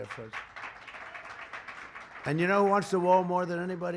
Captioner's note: applause